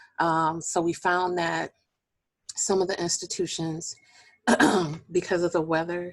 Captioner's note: clearing voice